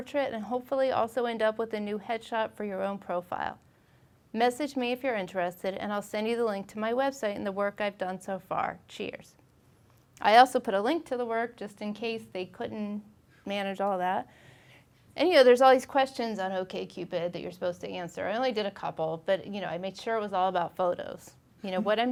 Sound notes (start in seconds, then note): none